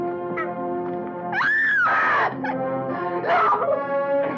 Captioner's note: screaming